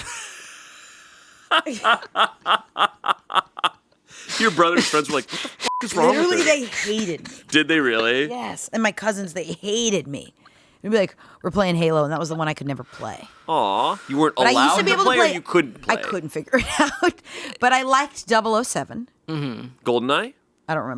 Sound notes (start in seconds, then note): 1.5 laughing; 5.6 beeping; 17.3 laughing